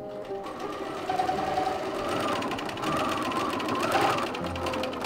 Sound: sewing machine revving

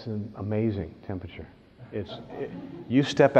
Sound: laughter

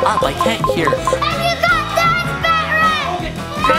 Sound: remote beeping; shouting

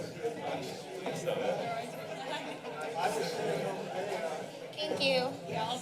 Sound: background conversations

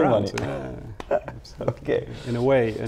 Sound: laughs

